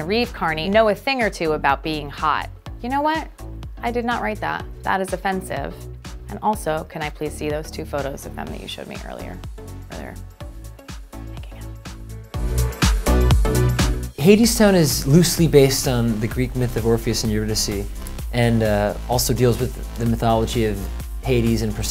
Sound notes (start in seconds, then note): 10.2 whispers